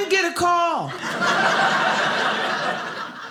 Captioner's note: audience laughing